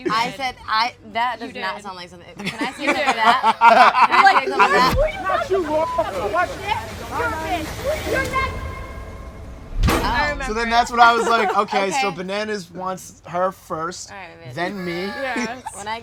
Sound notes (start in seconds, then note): 5.0 dramatic music; 5.0 laughing